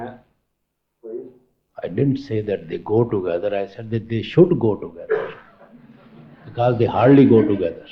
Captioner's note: laughter